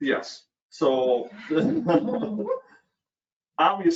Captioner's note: laughs